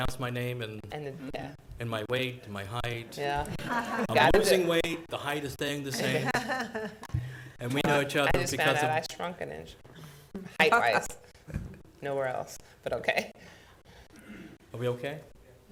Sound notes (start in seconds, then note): 3.5 laughter